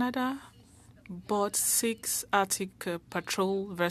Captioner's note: speaking French